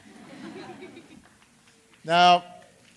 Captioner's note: laughter